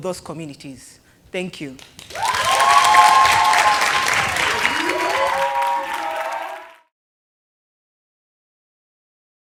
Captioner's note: cheers and Applause